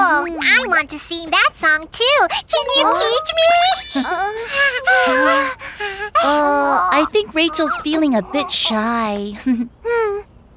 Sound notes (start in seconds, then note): 3.9 Rachel grunts shyly; 9.4 Hogi chuckles